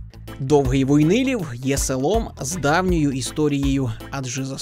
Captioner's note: voiceover